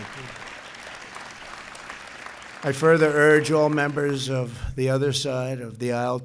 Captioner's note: applause